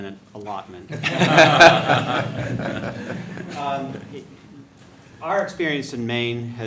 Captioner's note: laughter